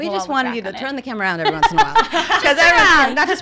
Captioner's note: laughs